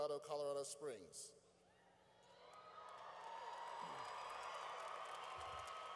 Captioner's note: cheering